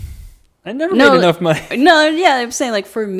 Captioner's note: laughs